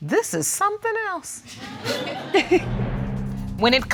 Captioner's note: audience laughing; chuckles